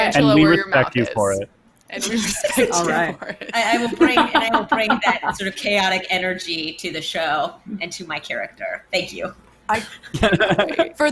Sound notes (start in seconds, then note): 5.0 laughs; 9.7 laughs